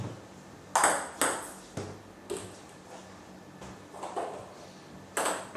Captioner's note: balls ping pong hitting continues